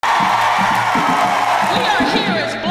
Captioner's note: cheering